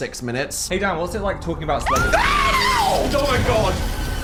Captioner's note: scream